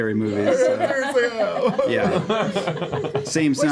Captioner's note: cries